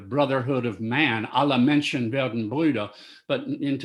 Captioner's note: speaking German